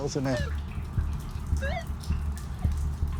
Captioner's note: beeping